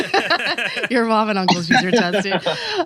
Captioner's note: laughs